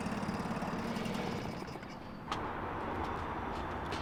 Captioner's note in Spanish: motor de barco